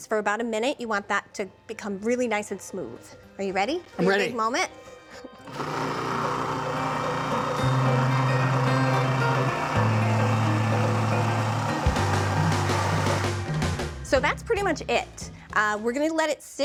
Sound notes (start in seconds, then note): 5.5 processor whirring; 12.5 processor stops